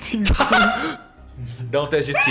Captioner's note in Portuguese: risos